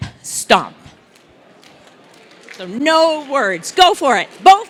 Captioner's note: applause